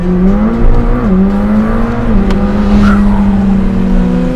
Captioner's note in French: Vrombissement du moteur